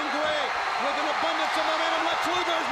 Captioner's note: audience cheering